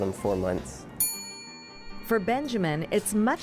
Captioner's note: ding